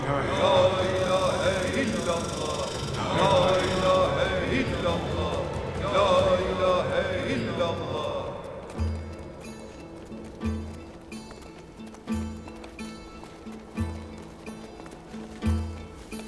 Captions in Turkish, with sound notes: -La ilahe illallah. -(Erkek sesleri) La ilahe illallah. -La ilahe illallah. -(Erkek sesleri) La ilahe illallah. -La ilahe illallah. -(Erkek sesleri) La ilahe illallah. (Müzik - Dombra)